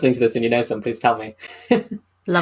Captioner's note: laughs